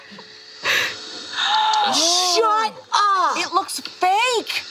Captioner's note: all laughing; gasps